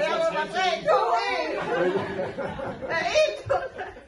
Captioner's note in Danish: Alle griner